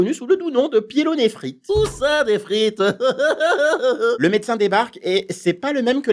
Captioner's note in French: rires